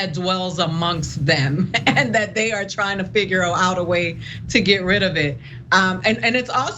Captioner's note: laugh